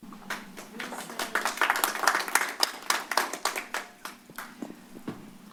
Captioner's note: applause